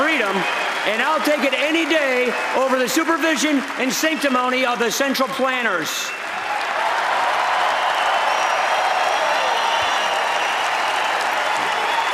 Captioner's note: applause